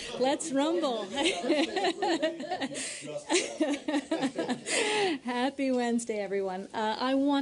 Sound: laughter

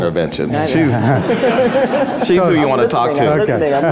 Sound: audience laughs

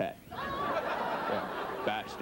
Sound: audience laughs

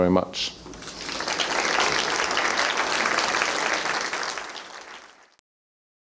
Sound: applause

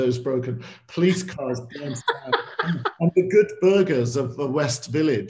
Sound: laughter

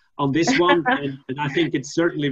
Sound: laughs

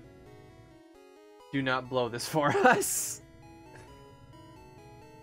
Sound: laughs

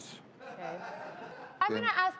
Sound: audience laughter

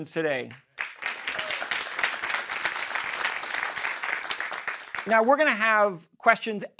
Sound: applause

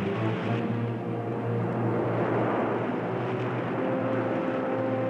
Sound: roaring surf

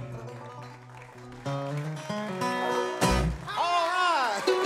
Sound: audience cheers

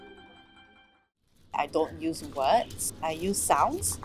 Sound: leaves crackling

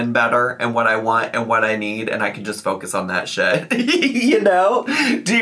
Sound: laughs

